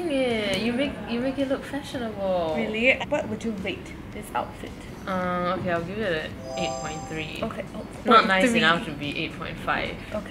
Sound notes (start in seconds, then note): none